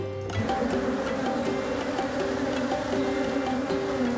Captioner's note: buzzing; bright lively music